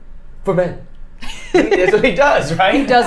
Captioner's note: both laughing